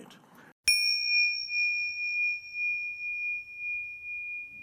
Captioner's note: bell rings